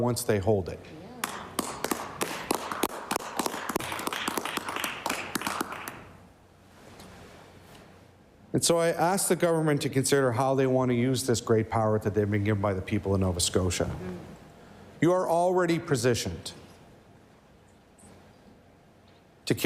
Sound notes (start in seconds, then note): 5.0 applause